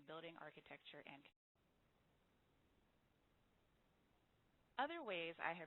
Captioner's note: audio break